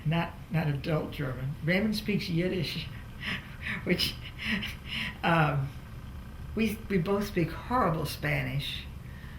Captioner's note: laughs